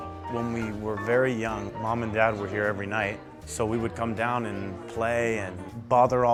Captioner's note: none